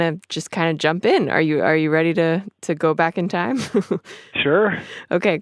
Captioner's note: chuckles